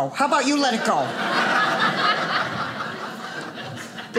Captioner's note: audience laughing